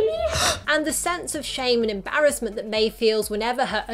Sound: gasps

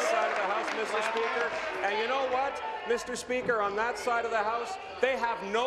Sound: applause

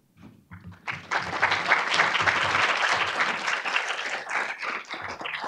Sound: audience clapping

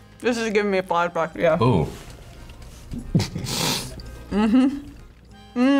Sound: snickers

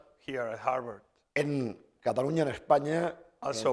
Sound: speaking spanish

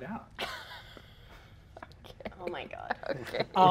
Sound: laughs

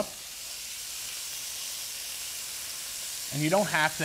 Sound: bacon sizzling

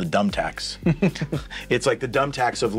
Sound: laughs

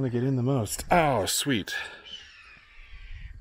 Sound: eagle screech

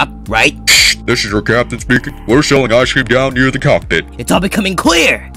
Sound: pilot voice

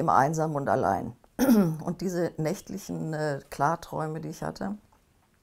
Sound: clears throat

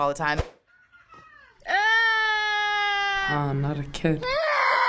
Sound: mom whining; baby whining

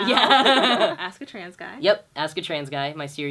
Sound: laughter

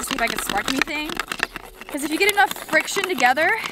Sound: sticks rubbing together rapidly

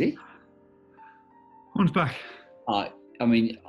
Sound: breathless

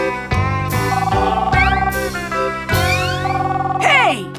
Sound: phone ringing

